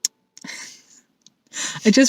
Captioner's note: chuckles